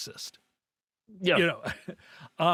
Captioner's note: laughing